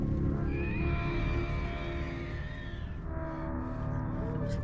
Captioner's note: creature screeching